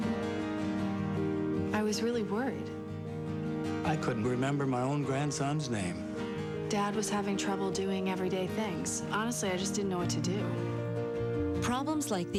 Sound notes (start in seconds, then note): none